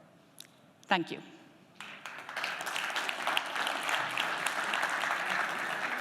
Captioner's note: applause